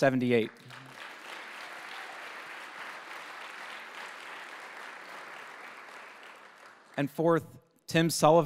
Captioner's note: applause